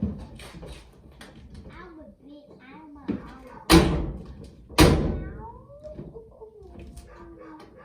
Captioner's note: slamming the door